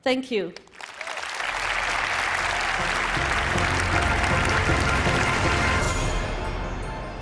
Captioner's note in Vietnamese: Thiên hạ vỗ tay